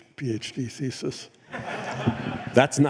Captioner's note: laughter